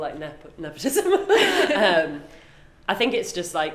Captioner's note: both laugh